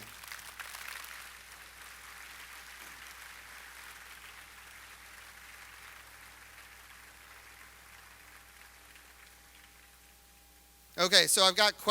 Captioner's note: applause